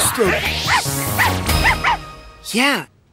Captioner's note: barking